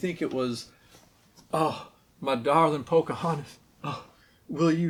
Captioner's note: breathy southern accent